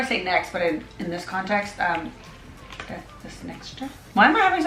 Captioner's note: in foreign language